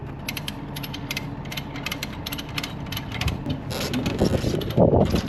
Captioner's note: ratchet clicks; device squeaks